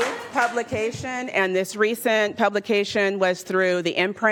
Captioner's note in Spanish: aplausos